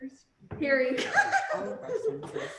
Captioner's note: laughing